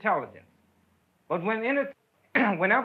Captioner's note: clears throat